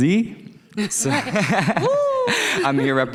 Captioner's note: people laughing